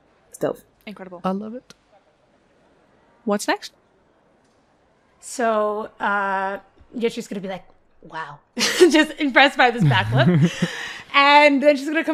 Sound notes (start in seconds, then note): 9.7 laughing